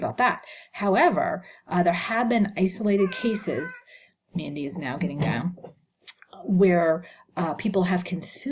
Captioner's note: cat meowing